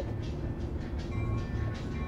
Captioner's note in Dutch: trambel rinkelt